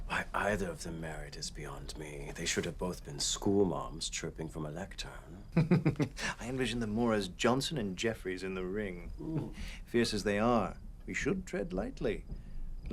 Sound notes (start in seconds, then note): 5.5 laughs